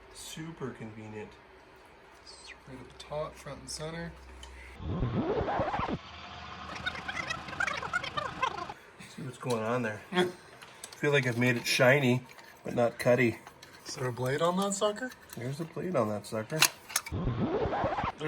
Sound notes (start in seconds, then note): 4.8 tape fast forwarding; 17.0 tape fast forwarding